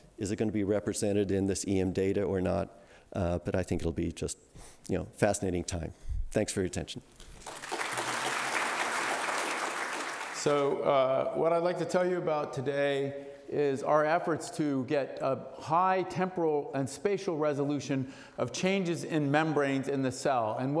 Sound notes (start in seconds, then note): 7.3 audience applauding